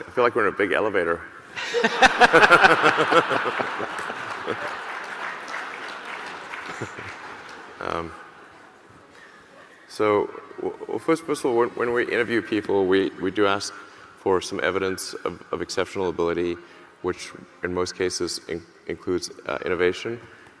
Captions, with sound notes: I feel like we're in a big elevator. (laughs) (audience laughing and applauding) So, first of all, when we interview people, we do ask for some evidence of exceptional ability which in most cases includes innovation.